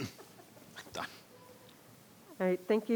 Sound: laughing

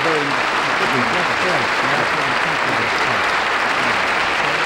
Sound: applause

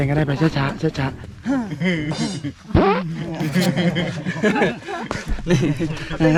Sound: laughs

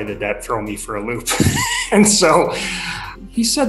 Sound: laughing

